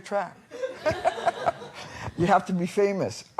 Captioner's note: laughter